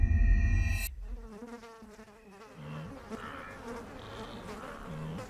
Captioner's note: flies buzzing